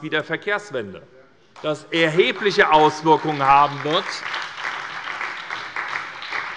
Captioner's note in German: Beifall bei der SPD